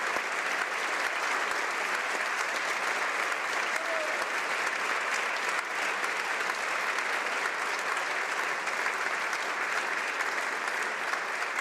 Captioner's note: applause